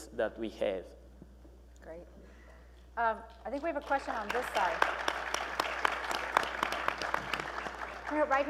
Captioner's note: applause